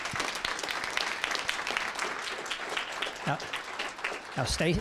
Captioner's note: applause